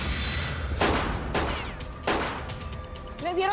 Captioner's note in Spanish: Disparos